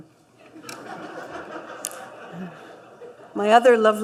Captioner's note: laughter